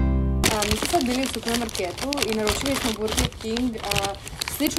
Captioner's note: food noise intensifies